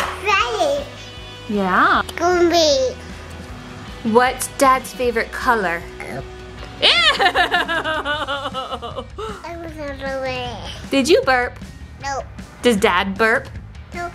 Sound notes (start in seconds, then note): 6.0 burping; 6.6 laughing